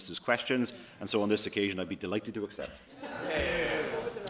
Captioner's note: laughter